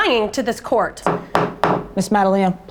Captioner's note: gavel banging